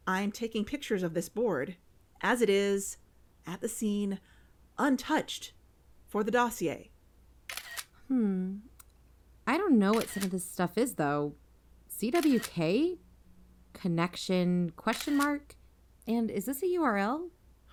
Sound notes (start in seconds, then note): 7.5 iphone camera clicks